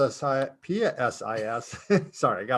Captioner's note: both laugh